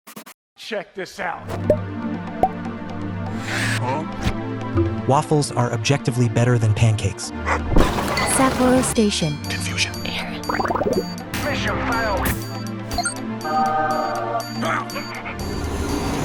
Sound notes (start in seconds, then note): 7.4 assenting bark; 10.4 Animal Crossing SFX; 13.4 heavenly singing; 14.4 panting; 14.7 grunt